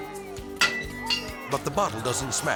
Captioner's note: bottle thuds